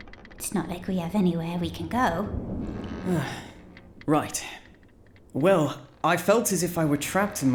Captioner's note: sigh